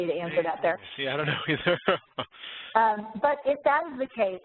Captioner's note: laughs